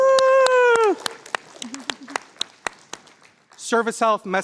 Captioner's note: applause